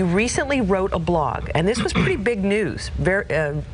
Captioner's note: clears his throat